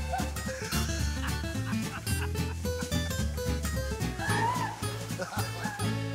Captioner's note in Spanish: risas